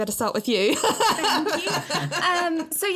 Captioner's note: laughs